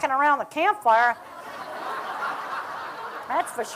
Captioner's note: laughter